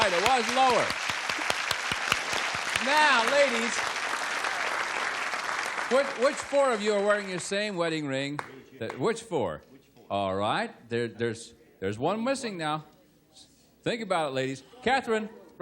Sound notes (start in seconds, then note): 3.0 applause